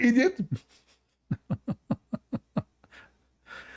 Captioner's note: Ketawa